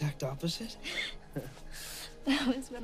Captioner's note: Karen laughing